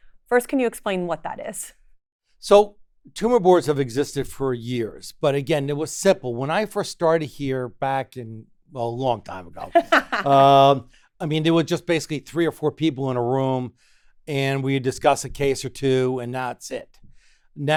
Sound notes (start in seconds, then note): 9.6 laughs